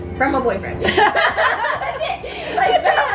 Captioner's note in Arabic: يضحك